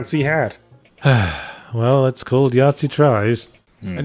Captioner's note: sigh